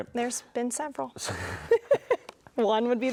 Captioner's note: both laugh